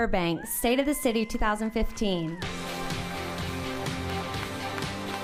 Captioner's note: applauding